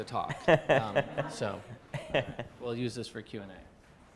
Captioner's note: chuckling